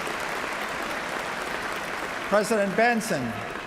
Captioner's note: applause